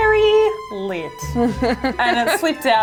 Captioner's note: laughing